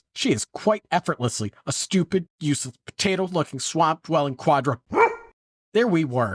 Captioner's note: woof